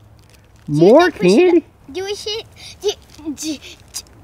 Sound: voiceover

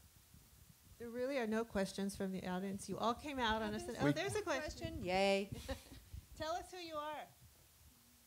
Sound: laughter

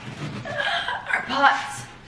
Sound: groans

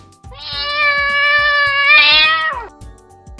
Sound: cat meowing

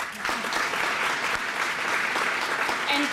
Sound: applause

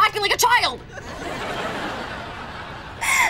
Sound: laughing

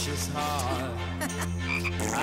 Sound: chuckles

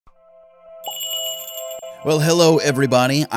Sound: magical jingle

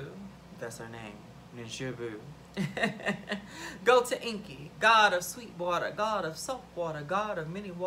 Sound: laughs

